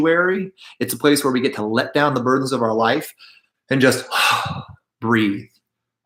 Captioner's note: exhales